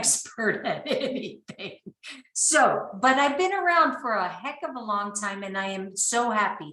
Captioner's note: laughing